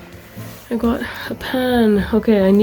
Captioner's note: frying